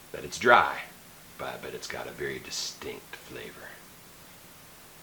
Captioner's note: whispers